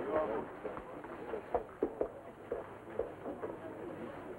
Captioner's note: departing footsteps